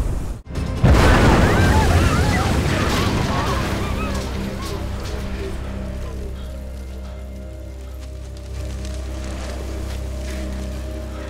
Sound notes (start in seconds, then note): 0.4 building explodes; 0.9 bystanders scream